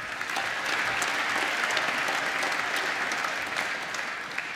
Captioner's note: applause